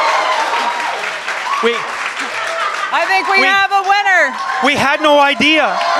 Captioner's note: more clapping